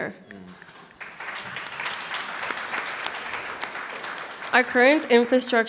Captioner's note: audience clapping